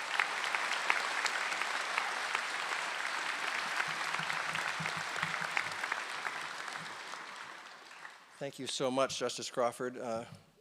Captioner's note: applause